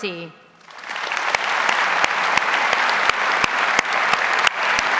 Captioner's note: audience applauds